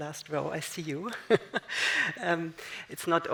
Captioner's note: laughs